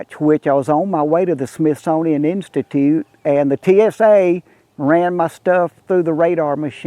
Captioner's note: none